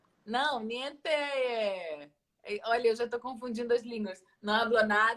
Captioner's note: Italian